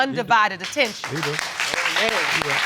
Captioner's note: crowd clapping